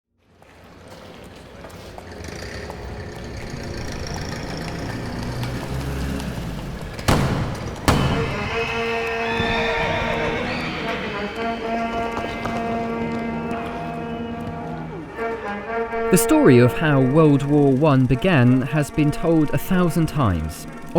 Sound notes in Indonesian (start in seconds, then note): 7.0 letusan pistol; 9.4 kuda meringkik; 11.8 orang berlari